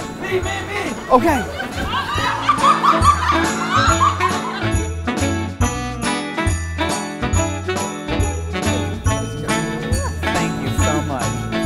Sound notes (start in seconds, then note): 1.2 laughter